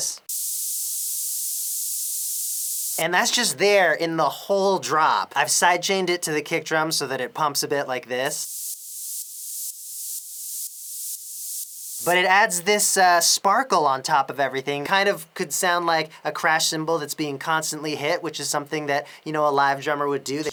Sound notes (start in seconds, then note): 0.0 white noise; 8.2 sidechained white noise